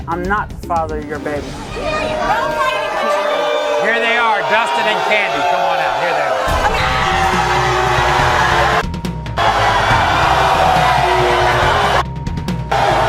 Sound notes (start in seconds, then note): 2.9 audience booing; 6.9 audience booing; 6.9 audience yelling; 8.9 audience booing